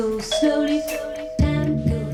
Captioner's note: ringing